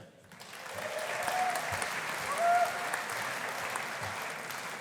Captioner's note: audience applauding